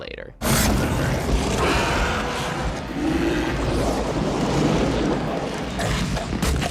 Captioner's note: dramatic music; Violator growling